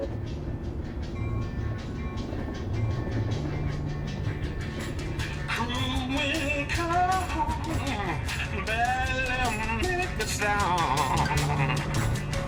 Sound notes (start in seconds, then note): 0.8 tram bell ringing; 2.4 lively pop music